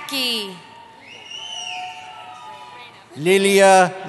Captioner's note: cheering